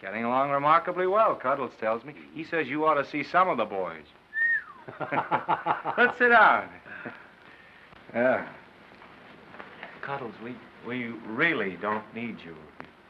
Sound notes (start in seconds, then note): 4.3 whistles